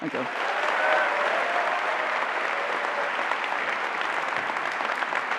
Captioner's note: applause